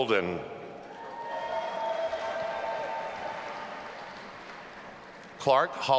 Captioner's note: audience applauding and cheering